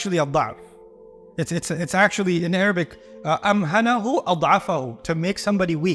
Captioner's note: Arabic; Arabic